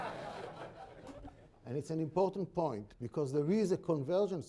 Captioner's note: laughter